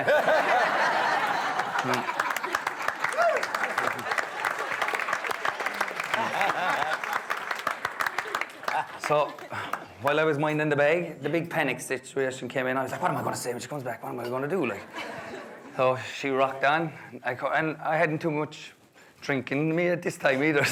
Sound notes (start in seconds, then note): 0.2 guests laughing; 1.3 guests clapping